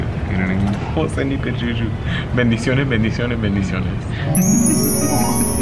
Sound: speaks in foreign language; bells chiming

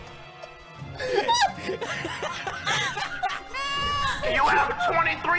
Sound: another laugh track

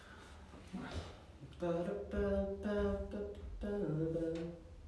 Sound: humming

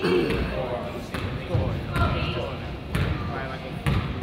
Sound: crowd chatters

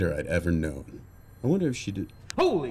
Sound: phone rings

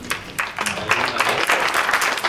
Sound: applause

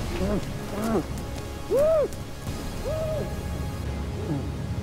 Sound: muffled protests

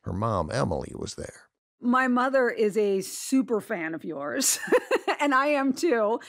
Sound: laughs

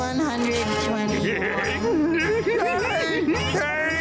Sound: laughing

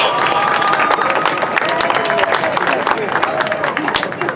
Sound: cheering

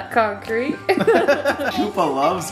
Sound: laughing

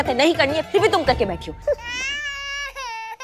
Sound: sound of baby crying

